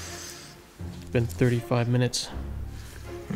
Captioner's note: sighs